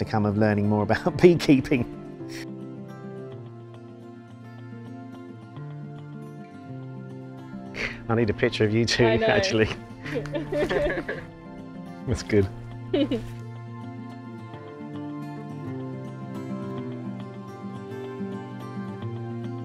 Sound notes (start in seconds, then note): 10.0 laughing; 12.9 gentle music